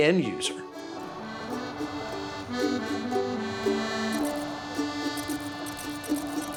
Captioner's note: calm music; air whooshing